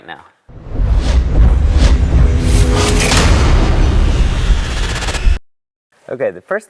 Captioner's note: sound effect